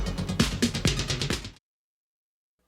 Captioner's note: crowd cheering